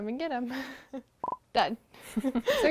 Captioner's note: laugh